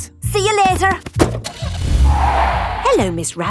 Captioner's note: tires screeching; car starting